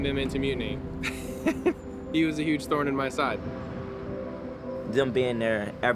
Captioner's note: laughs